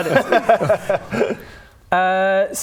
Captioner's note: uncooperative laughter